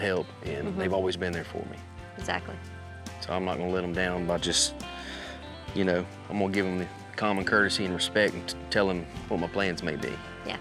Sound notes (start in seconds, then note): none